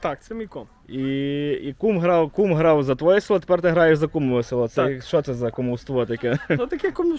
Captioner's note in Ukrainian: Сміється